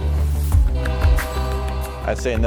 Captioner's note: upbeat music; train horn blowing